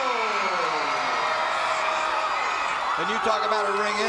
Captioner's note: audience cheering